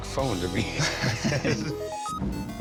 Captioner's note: both laughing